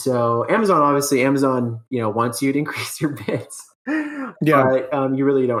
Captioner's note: laughs